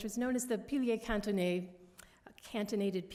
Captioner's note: french